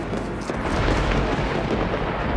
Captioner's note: thunder rumbles